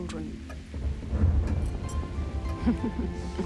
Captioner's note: thunder rumbles